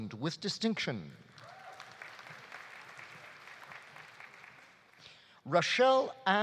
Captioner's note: audience applauding; audience cheering